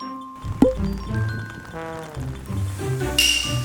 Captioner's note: rain starting to pouring after came down